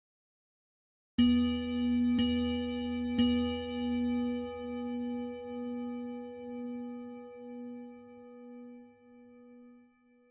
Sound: sound of melodic clock

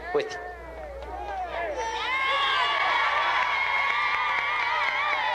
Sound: triumphant shouting

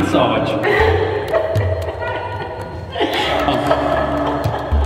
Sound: laughs

